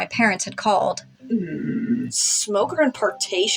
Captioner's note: Mr. Invisible Growls